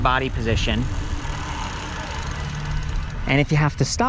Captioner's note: bicycle hub creaks